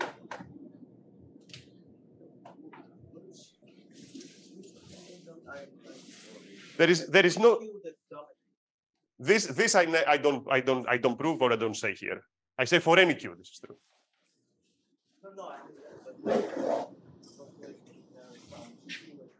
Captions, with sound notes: (person 2 speaks faintly) There is no- (person 2 faintly speaks) This, I don't prove or I don't say here, I say for any q, this is true. (person 1 faintly speaks)